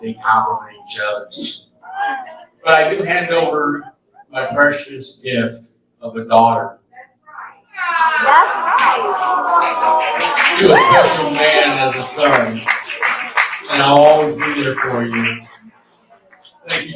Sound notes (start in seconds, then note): 7.8 audience reacts - aww